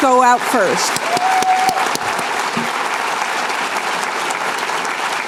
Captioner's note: applause